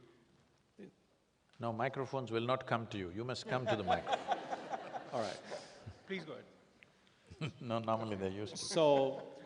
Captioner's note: laughter